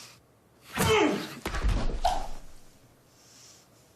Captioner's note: screams